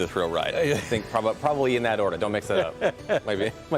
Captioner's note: laughter